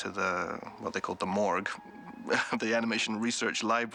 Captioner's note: laughs